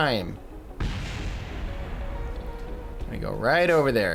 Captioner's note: rocket booster blasting